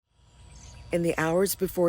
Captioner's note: birds chirping